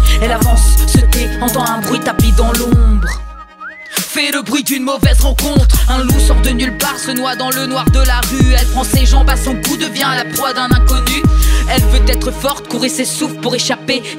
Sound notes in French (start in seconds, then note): 2.9 sifflement